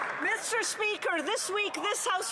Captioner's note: applause